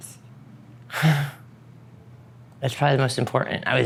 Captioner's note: deeply exhales